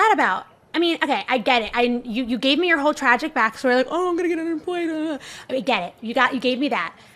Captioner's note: mocking